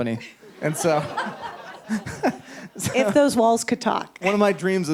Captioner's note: audience laughs